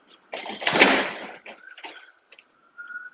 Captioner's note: gate clanks; siren wails